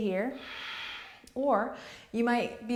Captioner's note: exhales